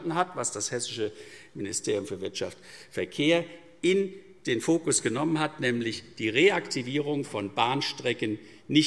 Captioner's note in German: none